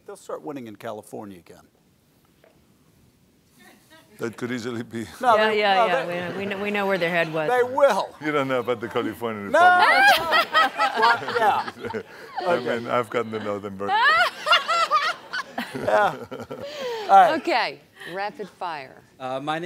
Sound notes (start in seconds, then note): 4.9 laughs; 6.0 audience laughing; 9.7 laughter; 13.8 laughter continues